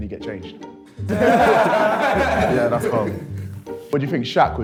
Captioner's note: laughs